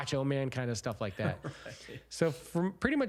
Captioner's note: laughing